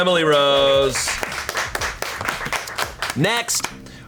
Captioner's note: colleagues applauding